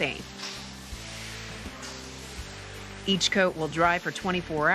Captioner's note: whooshing